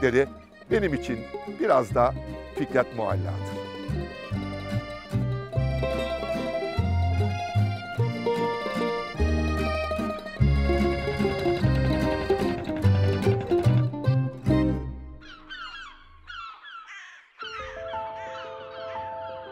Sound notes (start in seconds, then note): 10.4 fishing boat rattling; 14.5 seagulls squawking